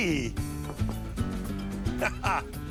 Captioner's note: knocks; laughs